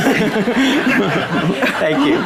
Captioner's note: audience laughing